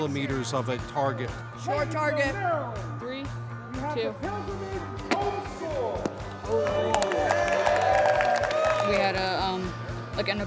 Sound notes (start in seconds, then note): 8.3 cheering